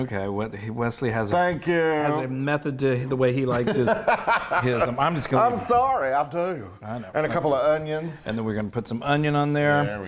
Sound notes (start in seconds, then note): 3.5 laughing